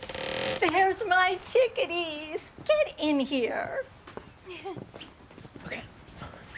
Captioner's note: soft chuckle